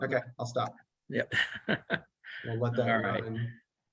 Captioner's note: laughing